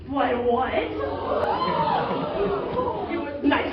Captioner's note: everyone gasps